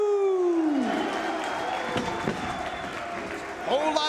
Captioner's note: spectators cheering and applauding